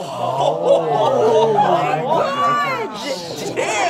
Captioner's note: all gasping